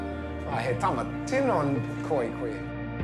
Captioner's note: speaks maori